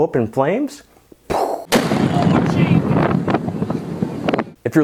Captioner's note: loud explosion